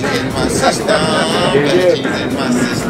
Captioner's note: chuckles